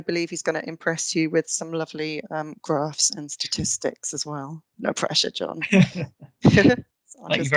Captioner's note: laughing